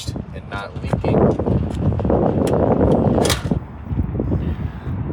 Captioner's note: wind blowing